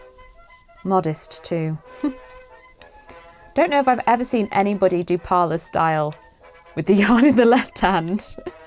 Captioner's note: laughs